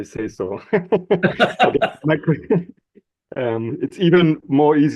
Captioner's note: laughing